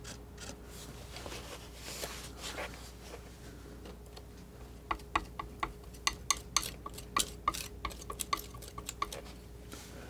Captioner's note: scissors snipping